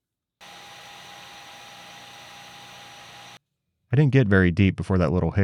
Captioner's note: machine whirring